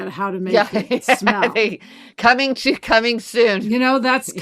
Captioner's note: laughs